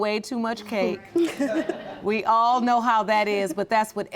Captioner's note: laughing